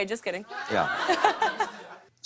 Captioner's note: laughter